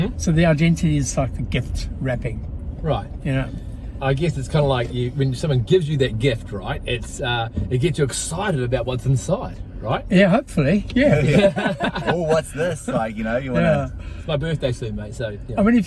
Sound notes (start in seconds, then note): 11.0 men laughing